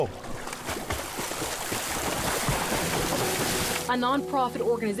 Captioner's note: water splashing